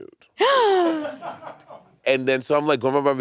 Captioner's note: gasping; crew laughing